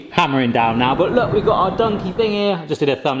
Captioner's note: thunder rumbling